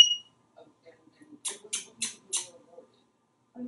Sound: whistling; smooches from the background

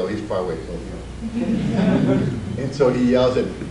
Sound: audience laughs

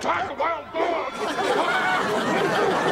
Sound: <i>screams

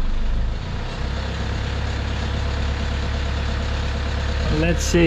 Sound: engine roaring

